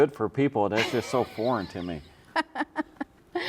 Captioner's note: laughs